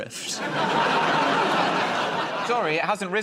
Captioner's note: laughter